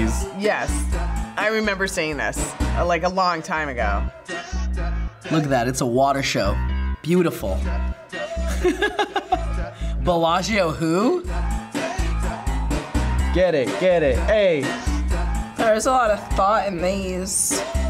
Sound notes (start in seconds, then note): 8.3 laughs